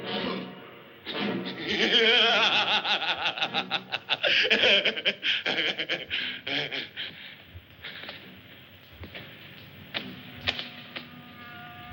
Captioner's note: laughs